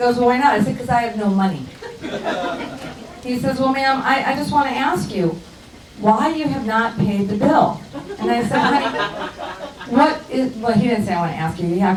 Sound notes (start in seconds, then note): 1.7 crowd laughs; 7.9 crowd laughs